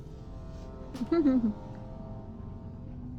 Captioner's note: laughing